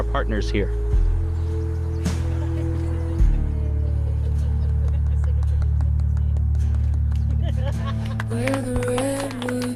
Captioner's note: background chatter